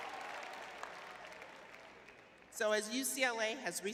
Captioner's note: cheering; clapping